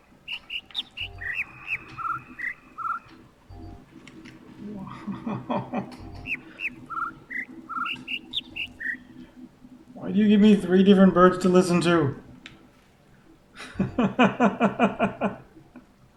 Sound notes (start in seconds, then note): 0.2 overlapping birds chirping, ˥ ˥ ˩ ˧ ˩; 5.0 overlapping birds chirping, ˥ ˥ ˩ ˧ ˩; 6.0 whimpers; 13.5 laughs